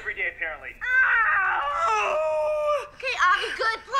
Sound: screams

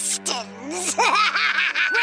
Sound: laughing

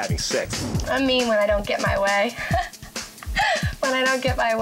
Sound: laughs

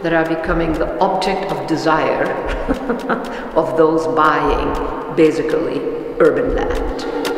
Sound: laugh

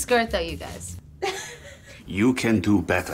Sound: laughs

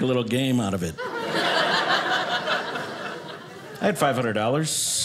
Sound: audience laughing

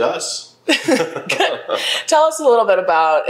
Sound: laughs

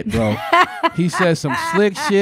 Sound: laughing

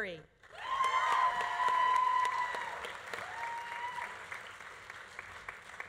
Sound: audience applauding; audience cheering

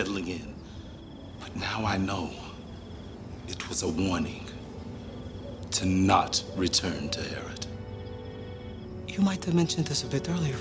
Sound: owls hooting in background

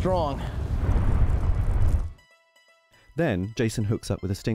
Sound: fire roar

